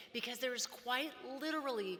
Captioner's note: none